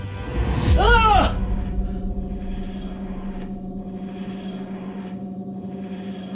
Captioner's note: screams and gasps